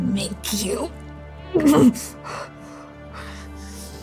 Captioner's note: groaning, panting in pain, rage